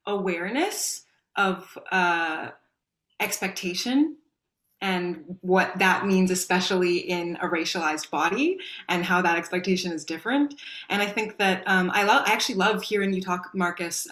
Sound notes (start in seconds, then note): none